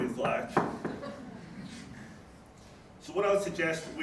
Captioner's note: knock knock knock